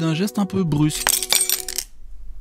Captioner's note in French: bruit de verre brisé